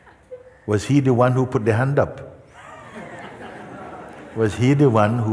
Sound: laughter

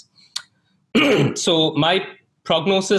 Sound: clears throat

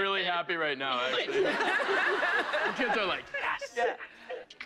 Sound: laughter

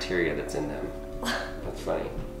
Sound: laughs

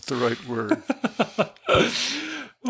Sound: laughter

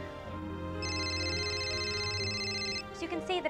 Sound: loud ringing

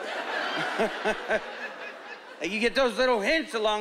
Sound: chuckling

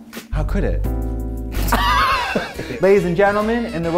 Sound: laughs

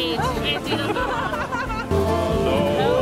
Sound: laughter

